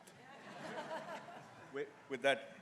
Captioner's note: people laugh